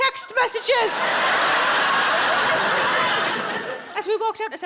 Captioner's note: audience laughing